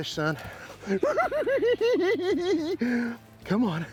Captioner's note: cackling